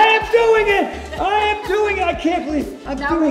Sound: Cynthia laughs

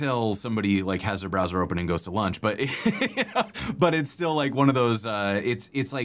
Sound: laughter

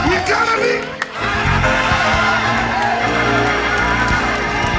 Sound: crowd exclaiming

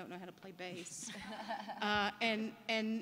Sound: laughter

